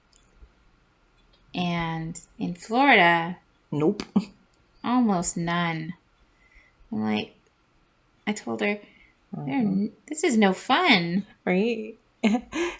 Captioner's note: laugh